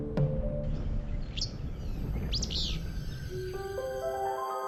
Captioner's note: birds chirping; eerie space music